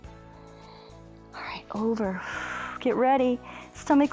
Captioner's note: exhales